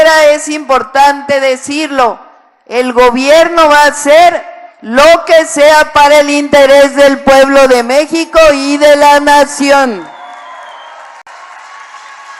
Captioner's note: applause